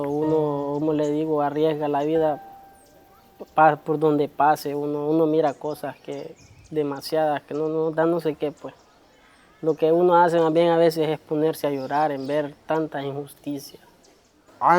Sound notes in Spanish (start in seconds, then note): none